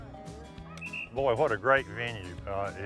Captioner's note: blows whistle